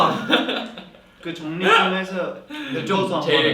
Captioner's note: giggle